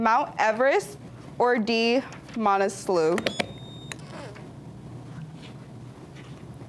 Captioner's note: buzzer beeps